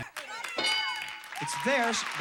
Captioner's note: audience applauding